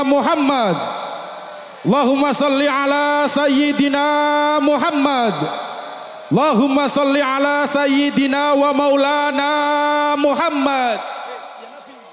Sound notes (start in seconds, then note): 1.5 applause